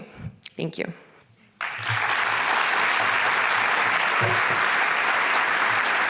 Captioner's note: applause